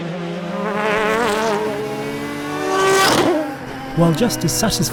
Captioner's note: engine roaring